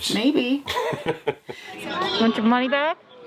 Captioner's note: laughing